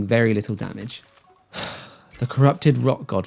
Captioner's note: sigh